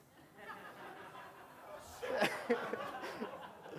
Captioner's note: laughing